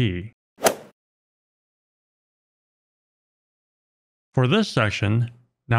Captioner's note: golf ball hit sound effect